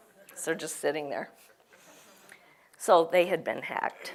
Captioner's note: laugh